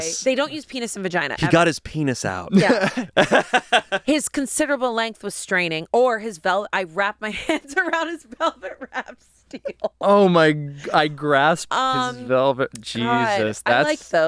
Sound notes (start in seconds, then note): 2.6 laughs